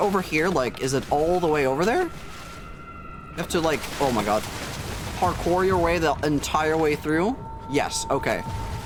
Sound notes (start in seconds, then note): 3.1 splashing faster